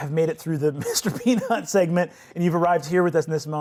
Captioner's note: laughs